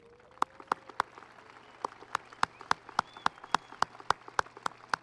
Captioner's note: audience applauding